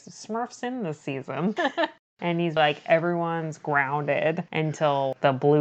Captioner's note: laughs